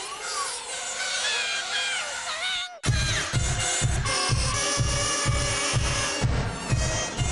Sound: loud Mosquito Sounds

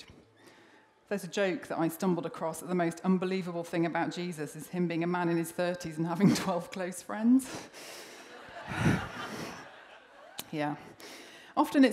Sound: laughter

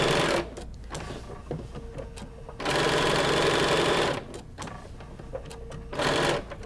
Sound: sewing machine frantically whirring

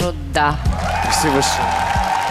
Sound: cheering

